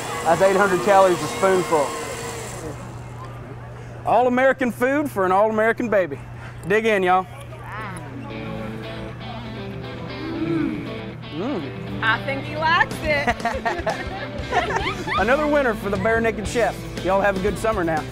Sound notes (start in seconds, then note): 10.1 yum sounds; 13.1 laughs; 15.0 squeels